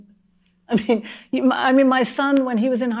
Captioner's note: chuckling